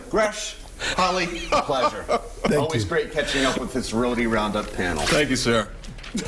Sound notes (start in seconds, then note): 1.2 laughter